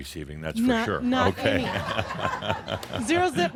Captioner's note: laughter